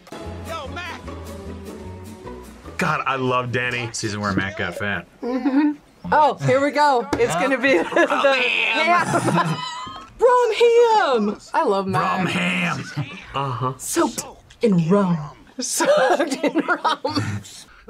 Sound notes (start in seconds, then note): 7.2 laughs; 9.2 raspily; 12.3 raspily; 16.1 laughs